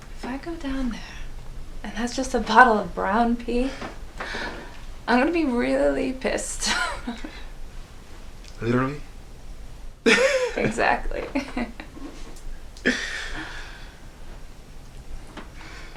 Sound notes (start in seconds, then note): 10.0 both laughing